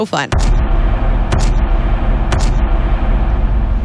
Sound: thumping sound

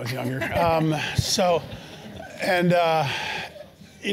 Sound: laugh

